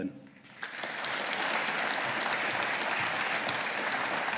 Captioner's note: audience applauding